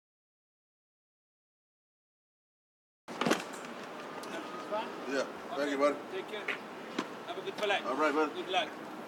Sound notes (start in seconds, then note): 3.1 car door opens